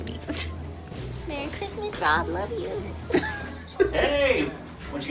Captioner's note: laughs